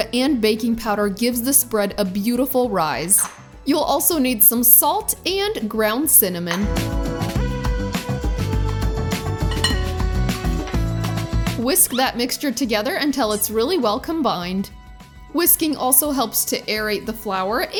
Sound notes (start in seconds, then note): 6.7 upbeat music; 9.4 bowl clinking